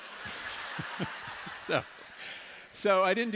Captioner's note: laughter